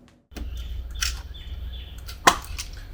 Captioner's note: bird twittering; sealant gun clicking